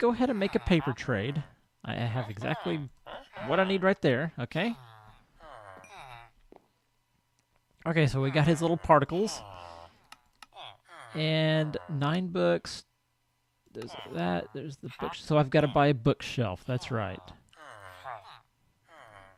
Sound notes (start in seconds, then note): 13.8 chattering continues